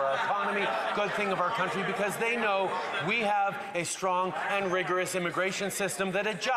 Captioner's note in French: voix de l'interprète